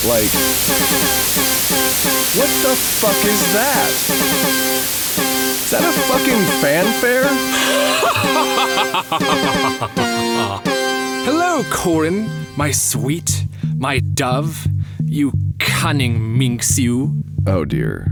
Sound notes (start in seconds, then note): 4.9 maniacal laughter